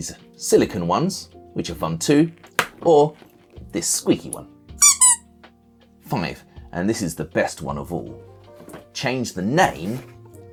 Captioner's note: squeak!